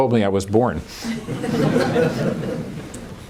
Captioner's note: laughter